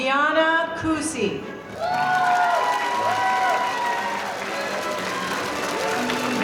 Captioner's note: audience applauding